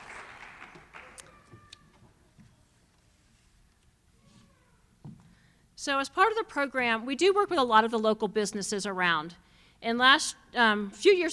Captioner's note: applause